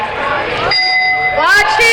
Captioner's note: dinging